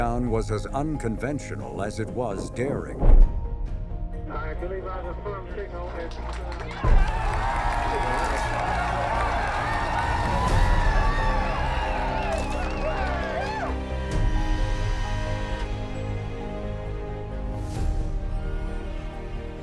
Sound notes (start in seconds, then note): 6.2 people cheering and clapping; 14.0 inspirational music; 14.0 machine buzzing